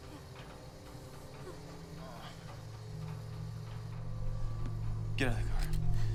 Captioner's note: Dexter groans